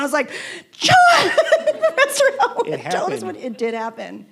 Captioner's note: laughing